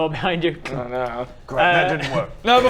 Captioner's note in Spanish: clunk